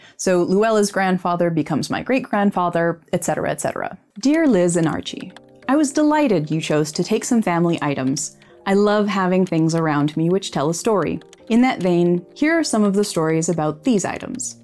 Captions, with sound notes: So Louella's grandfather becomes my great grandfather, etc., etc.. [typewriter sounds] Dear Liz and Archie, I was delighted you chose to take some family items. I love having things around me which tell a story in that vein. Here are some of the stories about these items.